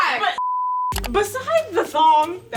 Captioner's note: beep